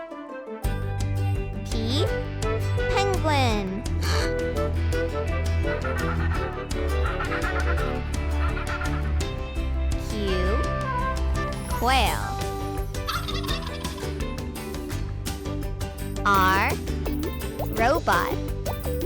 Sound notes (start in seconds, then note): 4.0 penguin squeals; 6.0 penguins squeal; 13.0 quail squeals